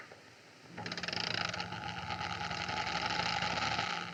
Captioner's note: creaking